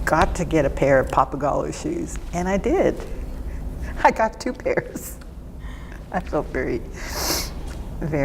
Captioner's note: laughs